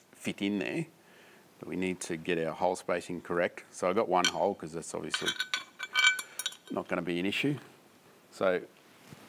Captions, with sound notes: fit in there. But, we need to get our hole spacing correct. So, I got one hole, -cause it's obviously -[metallic clattering] not going to be an issue. So,